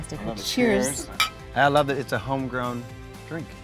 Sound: glasses clink

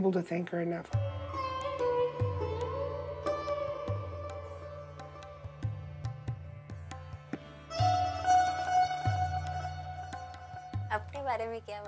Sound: through translator

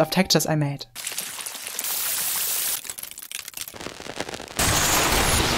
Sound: varying sound effects

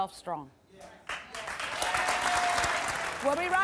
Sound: audience cheering and applause

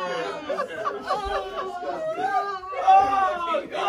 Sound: loud laughter

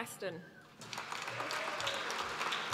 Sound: applause

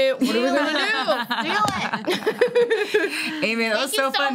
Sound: laughing

